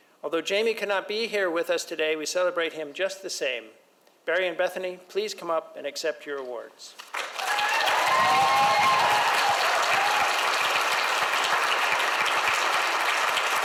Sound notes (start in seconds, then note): 7.0 audience applauds; 7.1 audience cheers